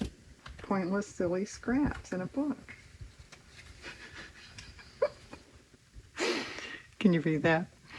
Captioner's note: laughs